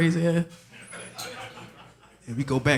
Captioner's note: audience laughing